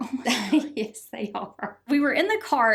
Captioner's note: laughs